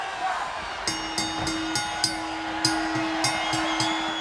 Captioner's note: audience cheering; bell ringing